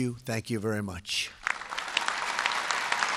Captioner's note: applause